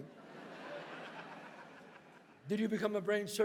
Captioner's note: audience laughs